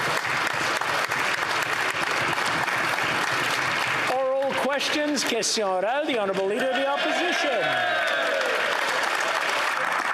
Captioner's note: some Applause